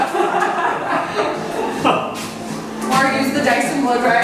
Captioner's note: crowd laughs